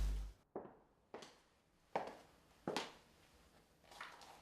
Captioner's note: footsteps; rustling